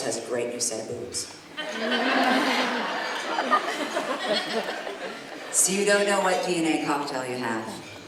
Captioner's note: laughter